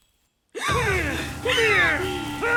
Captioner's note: suspenseful music; gasping